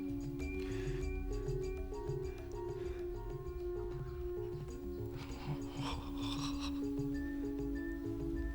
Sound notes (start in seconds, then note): 5.1 gasping excitedly